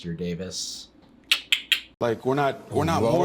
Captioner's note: clicks tongue